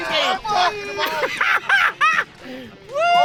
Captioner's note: laughing